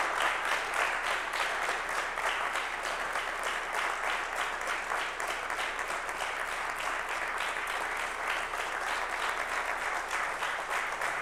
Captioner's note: applause